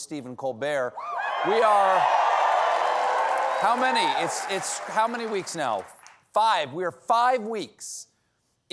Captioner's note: cheers and applause